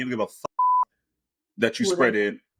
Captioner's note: beep